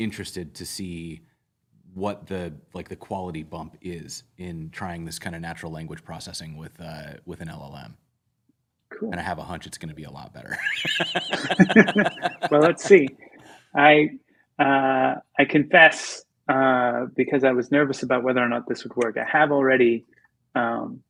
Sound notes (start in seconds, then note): 10.5 laughter